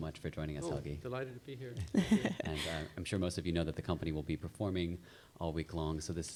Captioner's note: chuckles